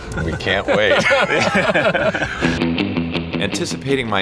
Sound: laughs

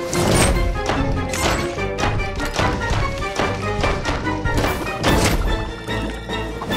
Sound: door banging

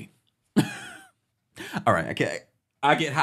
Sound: chuckling

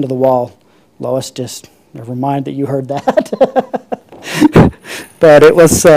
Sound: laughs

